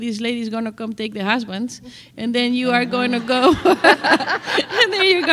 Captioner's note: laughter